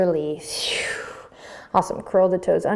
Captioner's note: exhaling